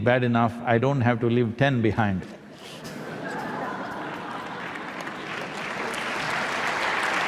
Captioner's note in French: Rires / Applaudissements